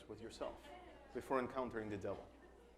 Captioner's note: background chattering